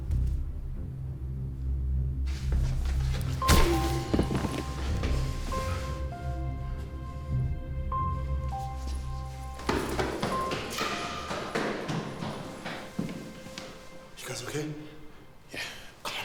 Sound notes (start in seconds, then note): 0.1 finger tapping; 2.6 head thudding; 8.3 footsteps plodding